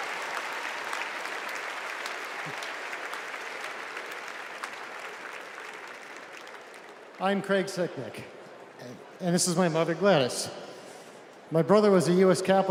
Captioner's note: cheers and applause